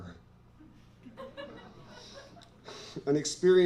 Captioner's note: laughter